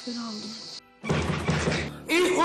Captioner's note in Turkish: Kapıya vurulur